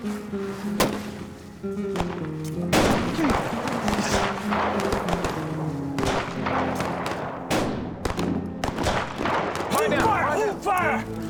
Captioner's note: gunshots continue; fires gunshot